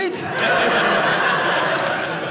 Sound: audience laughing

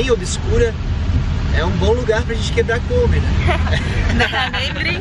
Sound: laughs

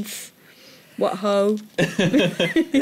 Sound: laughter

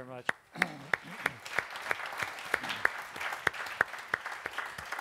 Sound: audience clapping

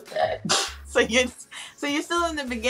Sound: both chuckle

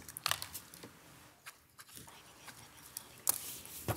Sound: speakers whispering

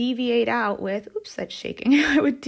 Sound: chuckles

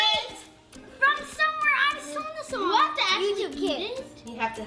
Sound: chattering together

